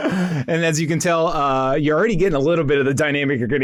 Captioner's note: laughs